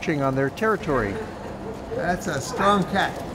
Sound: dog barks

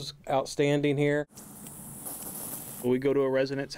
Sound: sound of water from sprinkler

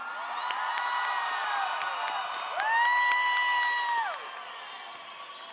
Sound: audience cheering and applauding

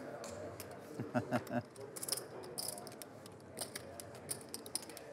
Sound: laughing

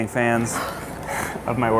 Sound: laughing

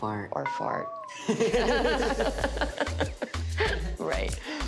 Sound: laughing

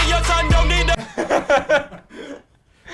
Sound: laughter

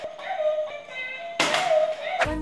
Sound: smack

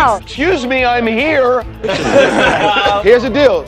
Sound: laughter

